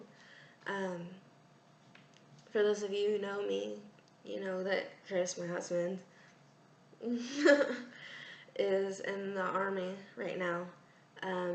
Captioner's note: shows ring, laugh